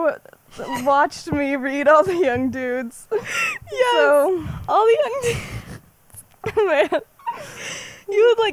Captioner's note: laughs